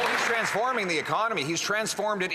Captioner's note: some Applause